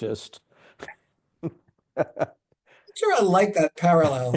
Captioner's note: laughing